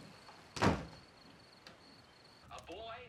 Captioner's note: door slamming